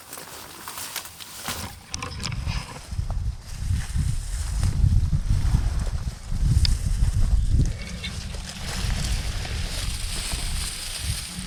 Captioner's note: natural noises/crunching